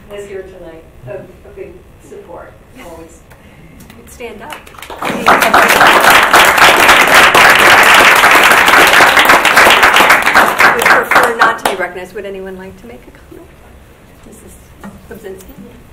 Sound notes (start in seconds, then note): 4.4 audience claps